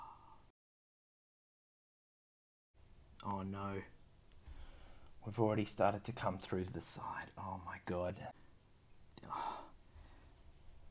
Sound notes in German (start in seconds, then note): 6.7 flüstern